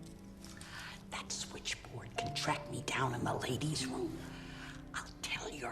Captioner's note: whispering